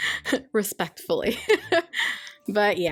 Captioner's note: laughs